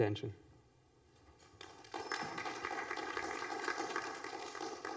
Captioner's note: applause